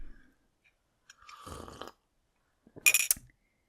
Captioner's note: slurps